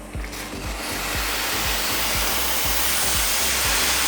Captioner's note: water steaming